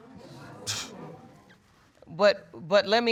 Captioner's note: scoffs